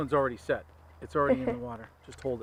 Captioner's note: Elvis chuckles